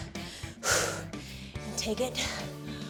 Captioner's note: exhales